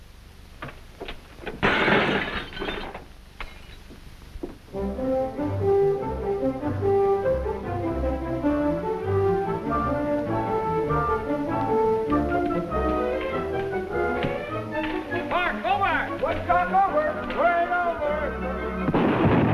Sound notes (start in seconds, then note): 1.6 glass breaks; 5.4 upbeat music; 15.9 hunters chattering